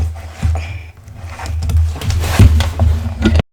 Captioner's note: more sounds of exertion